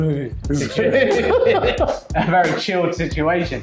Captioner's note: both laughing